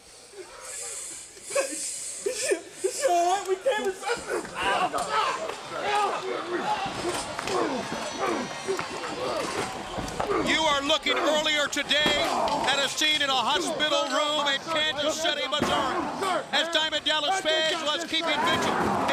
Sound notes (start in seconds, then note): 1.9 sobs; 5.8 grunts